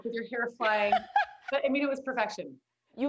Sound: laughs

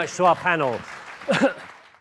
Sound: audience applauding

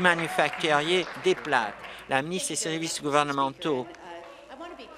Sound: applause

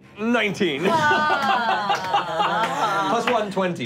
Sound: gasping

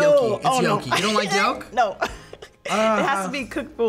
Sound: laughs

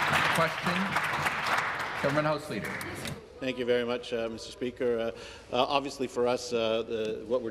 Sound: applause

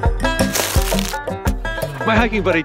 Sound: footstep crunching softly

